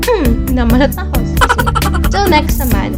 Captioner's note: laugh